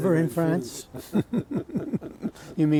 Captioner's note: laughter